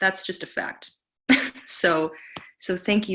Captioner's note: giggles